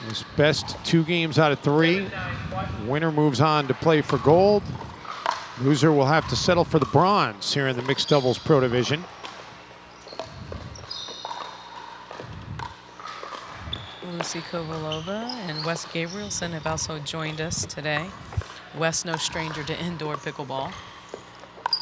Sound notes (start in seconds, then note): 10.0 ball bouncing